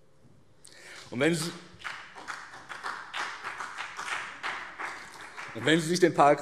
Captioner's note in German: Vereinzelter Beifall BÜNDNIS 90/DIE GRÜNEN und CDU